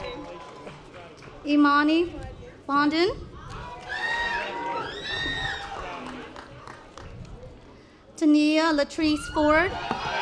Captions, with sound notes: Imani Bonden. (audience applause) Dania Latrice Ford.